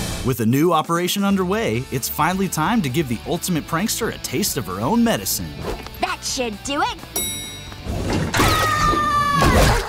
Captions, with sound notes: With a new operation underway, it's finally time to give the ultimate prankster a taste of her own medicine. That should do it. [elevator dinging] [screaming]